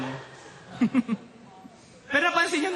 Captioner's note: chuckles